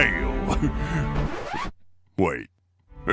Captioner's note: chuckle; record scratch